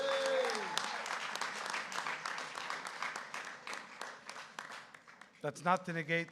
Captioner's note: applause